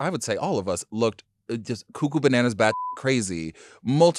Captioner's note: beep